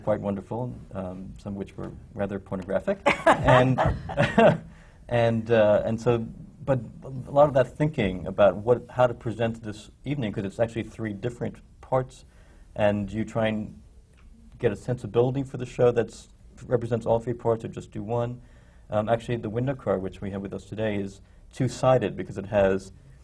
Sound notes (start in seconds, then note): 3.0 laughs